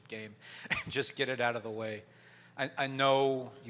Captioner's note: chuckles